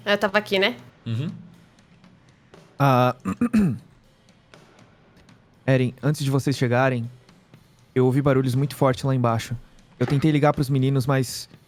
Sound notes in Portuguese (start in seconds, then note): 3.0 limpa garganta